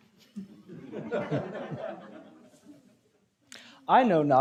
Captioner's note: audience chuckling